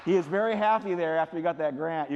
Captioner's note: applause